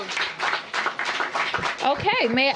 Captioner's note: applause